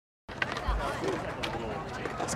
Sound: indistinct chatter

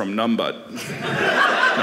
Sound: audience laughing

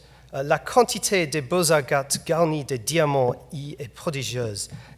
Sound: speaking foreign language

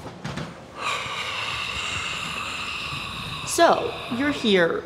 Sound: unnerving hot gross exhales

